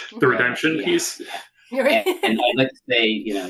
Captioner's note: laugh